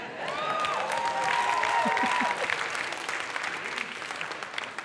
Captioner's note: audience clapping